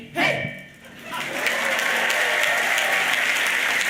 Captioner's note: applause